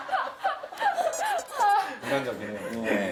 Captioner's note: ha ha ha